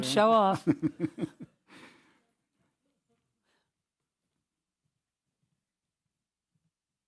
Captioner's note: laugh